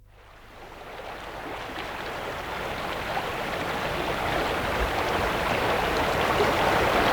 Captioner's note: running water